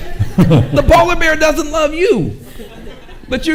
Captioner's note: and audience chuckles